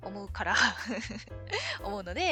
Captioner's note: laughs